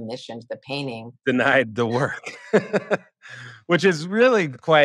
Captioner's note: laughter